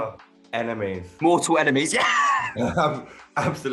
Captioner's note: laughs